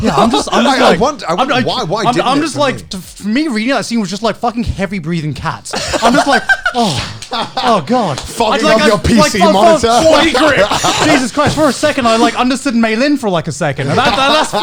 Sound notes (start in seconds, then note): 5.7 laughing